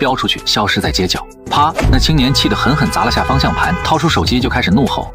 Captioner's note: bang!